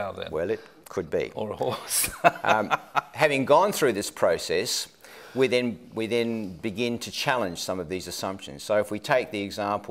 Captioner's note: laughs